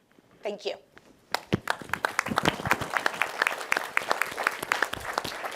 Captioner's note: applause